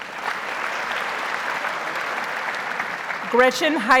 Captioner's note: audience applauds